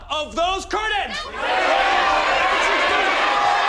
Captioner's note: cheering